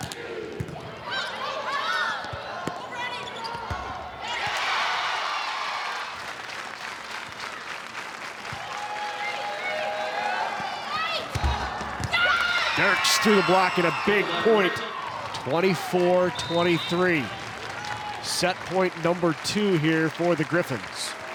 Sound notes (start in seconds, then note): 0.1 ball thumping; 1.0 players shouting indistinctly; 4.6 audience cheering; 8.7 ball thumping; 12.2 audience cheering